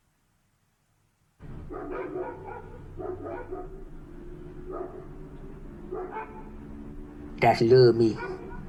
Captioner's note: silence; dogs barking